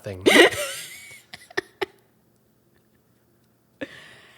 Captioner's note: laughing